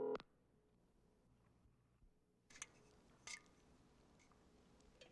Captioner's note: telephone rings